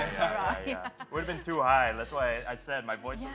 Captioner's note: chuckles